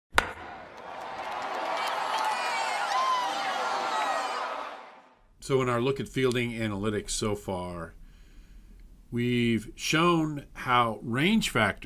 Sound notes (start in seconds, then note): 0.1 crack of a bat; 0.2 cheering